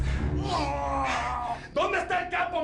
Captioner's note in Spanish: Quejidos